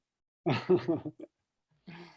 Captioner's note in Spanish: ríe